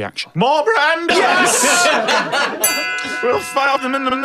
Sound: bell gong

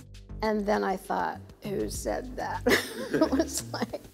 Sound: laughs

